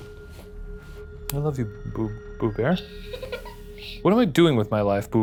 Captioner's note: Boo Buddy laughs